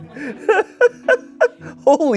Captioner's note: Shayne laughs